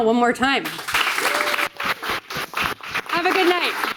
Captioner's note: audience applauding